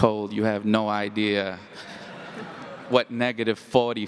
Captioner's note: audience laughs